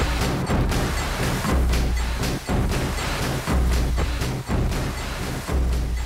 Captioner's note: fireworks whistling, popping